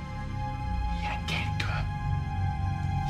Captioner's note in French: en chuchotant